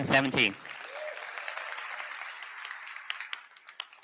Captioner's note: applause